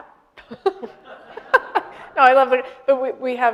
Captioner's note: laughing; audience laughing